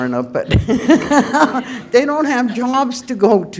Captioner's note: laughter